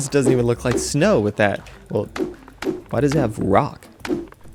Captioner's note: rock sounds